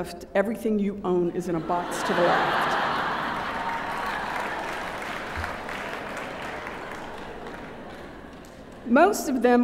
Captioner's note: laughter